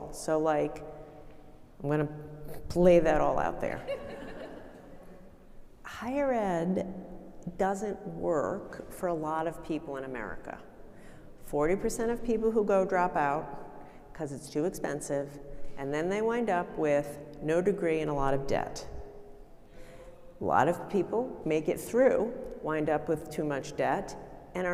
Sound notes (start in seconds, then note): 3.9 audience laughing